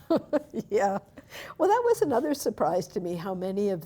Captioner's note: chuckling